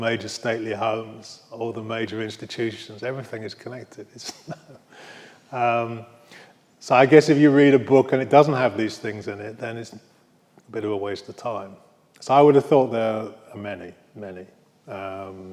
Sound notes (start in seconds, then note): 4.1 laughs